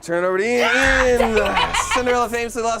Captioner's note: laughs